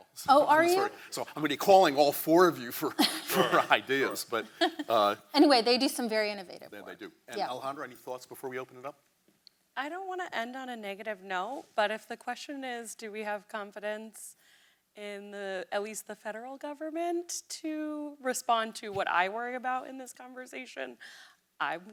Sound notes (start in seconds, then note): 2.9 laughs